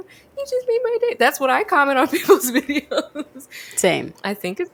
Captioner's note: laughs